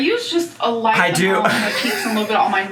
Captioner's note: laughs